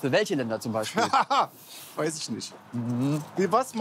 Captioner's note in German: Kurt lacht